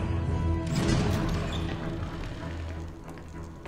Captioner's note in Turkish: Kapı Sesi